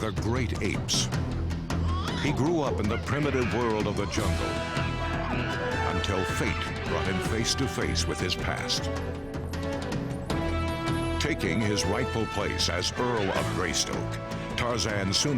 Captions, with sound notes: He grew up in the primitive world of the jungle. (monkeys screaming) Until fate brought him face to face with his past. Taking his rightful place as Earl of Greystoke, Tarzan soon became disenchanted with civilization.